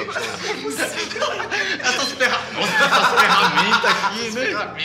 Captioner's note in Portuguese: Risadas